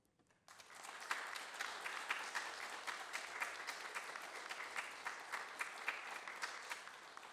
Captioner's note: applause